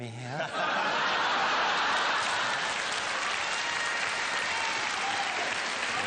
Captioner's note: audience laughter and applause